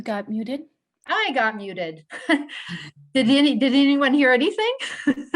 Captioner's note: laughter